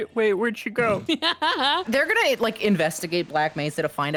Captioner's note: laughs